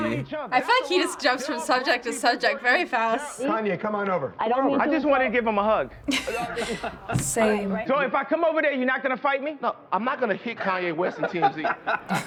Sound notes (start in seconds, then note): 4.8 laughing; 11.5 laughing